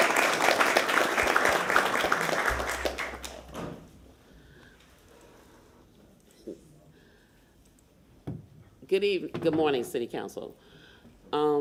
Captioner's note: applause